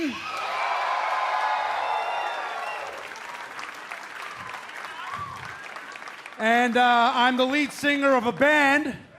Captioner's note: cheers and applause